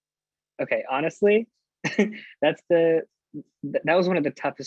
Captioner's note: chuckles